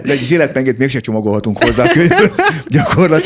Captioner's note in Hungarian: nevetés